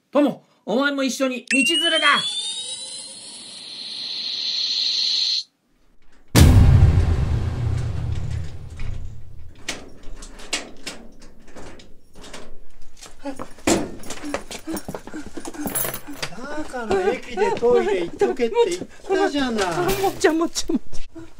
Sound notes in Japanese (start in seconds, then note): 4.4 不思議な音; 6.4 時空の裂ける音！